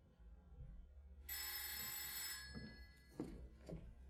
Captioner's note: the Lady's phone rings